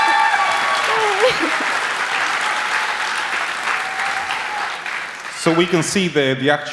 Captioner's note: applause